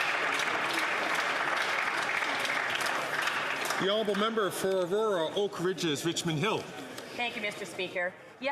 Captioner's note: some Applause